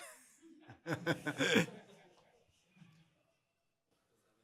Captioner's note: laughter